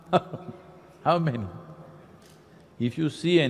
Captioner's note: laughs